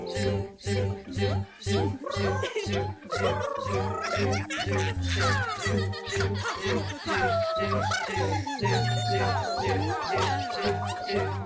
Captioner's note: animal Noises